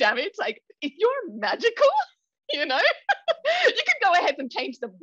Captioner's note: laughs